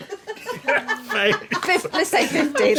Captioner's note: laughing